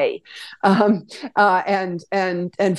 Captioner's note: laughs